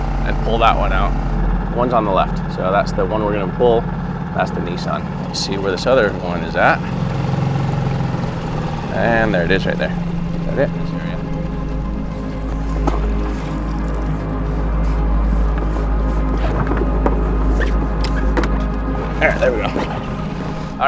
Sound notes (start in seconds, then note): 7.1 motor boat whirring; 12.5 water splashing; 14.6 ominous instrumental music